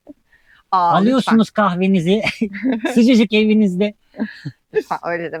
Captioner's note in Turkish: kahkaha